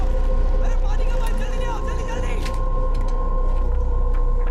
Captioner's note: man yelling